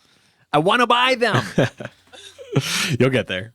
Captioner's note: laughs